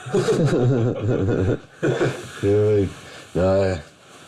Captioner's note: both laughing